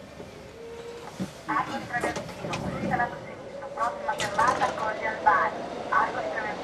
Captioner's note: automated announcments